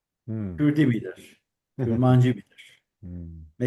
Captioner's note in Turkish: boğazını temizler